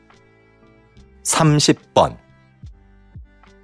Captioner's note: Korean audio